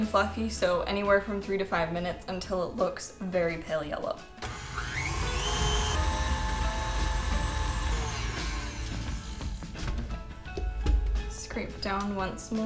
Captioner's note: mixer sounds